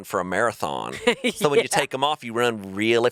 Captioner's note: chuckling